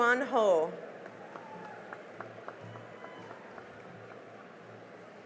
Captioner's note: cheering and applause